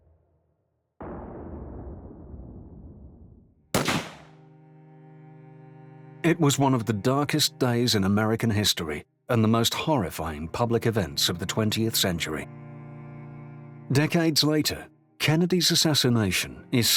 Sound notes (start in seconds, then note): 1.2 gun banging